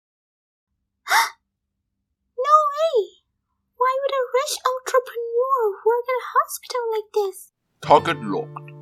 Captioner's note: gasp